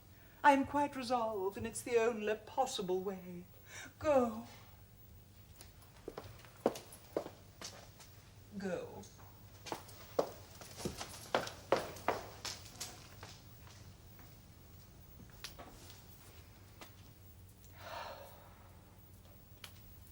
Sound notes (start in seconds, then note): 17.8 JUDITH sighs